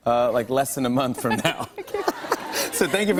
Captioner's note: laughter